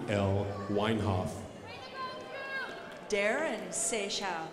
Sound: crowd applauding

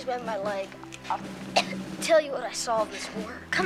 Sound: coughs

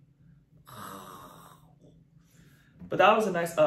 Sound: sighs in disappointment

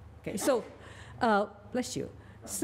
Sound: person off-camera sneezes

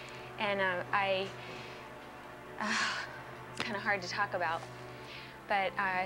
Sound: exhales

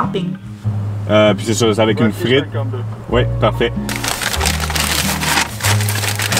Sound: speaking in foreign language

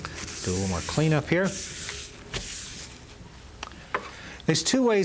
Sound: wipe rustling

